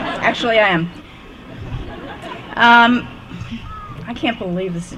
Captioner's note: laughter